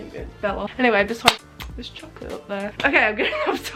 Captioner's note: clap